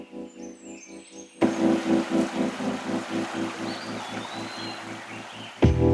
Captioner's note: birds chirpping; bright upbeat music; sound of river flowing; car engine revving; bright upbeat music